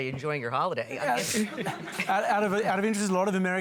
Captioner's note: laughter